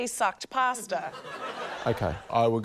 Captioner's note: laughter